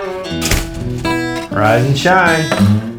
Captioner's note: door clicking shut